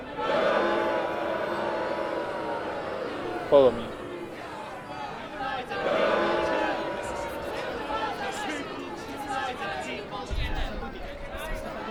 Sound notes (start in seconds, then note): 0.2 loud booing; 5.3 booing and chanting continues